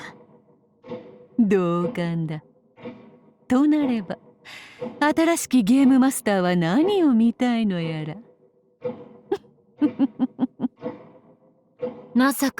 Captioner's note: cackle